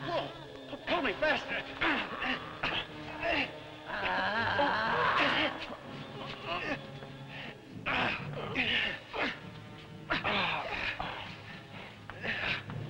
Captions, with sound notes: Pull! Pull me fast! (men grunting) (Popoca groaning) (men grunting)